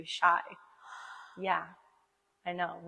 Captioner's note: gasps